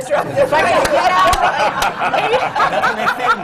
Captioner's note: laughter